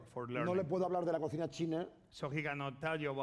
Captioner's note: speaking spanish